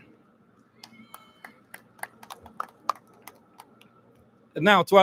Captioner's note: audience lauds